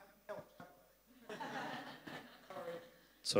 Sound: laugh

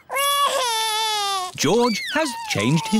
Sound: crying

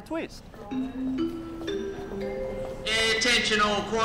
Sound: airport announcement sound

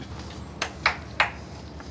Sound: claps

